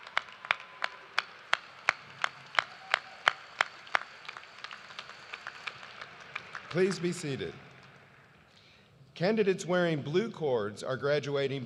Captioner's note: cheers and applause